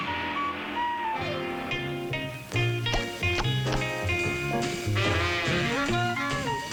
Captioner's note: puffing